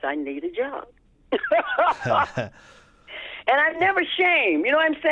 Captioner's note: laughter